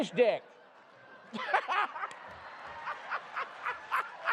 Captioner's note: laughter